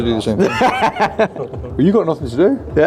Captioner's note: group laughs